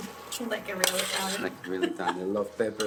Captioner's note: laughs